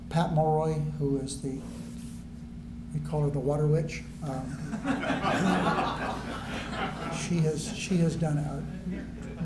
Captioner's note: laughter